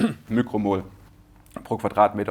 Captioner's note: clear throat